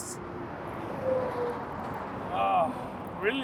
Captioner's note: traffic roaring